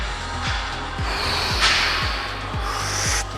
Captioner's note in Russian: Выдох